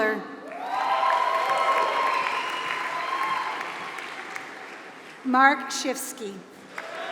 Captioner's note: applause; applause